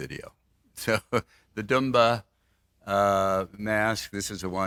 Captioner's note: laughs